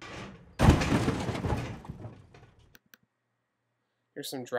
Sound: metallic thudding and rattling

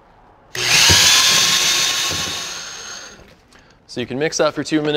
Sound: drill running

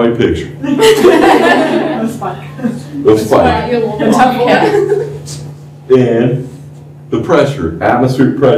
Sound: laughter

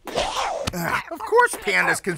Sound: gasps

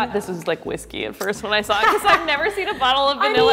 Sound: loud laughs

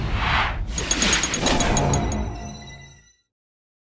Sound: whooshes

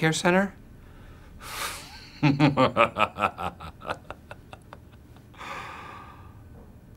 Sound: evil laughter

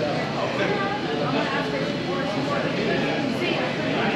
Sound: voices chattering

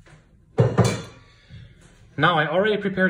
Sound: utensil clattering

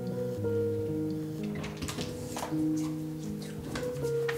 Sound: door opening

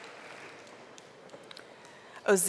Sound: audience applauding

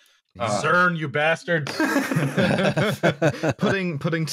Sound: laughter

